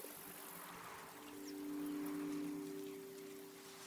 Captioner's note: none